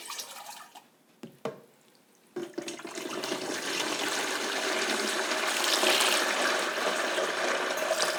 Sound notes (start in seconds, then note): 2.7 deep, low water pouring with echo